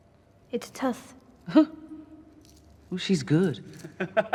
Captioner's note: chuckles; laughs